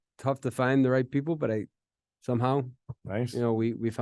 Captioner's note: knocks on table